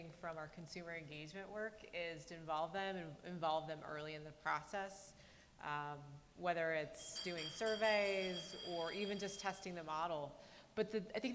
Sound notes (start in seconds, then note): none